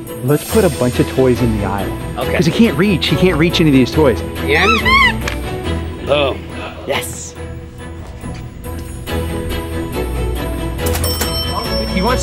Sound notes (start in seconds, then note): 4.6 toy squeaking; 7.8 anticipatory music; 10.8 cash register dinging